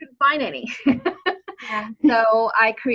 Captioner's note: laughs